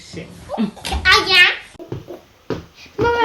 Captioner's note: laughs